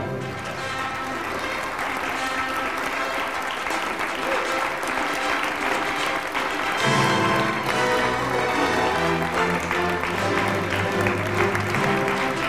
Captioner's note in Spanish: aplausos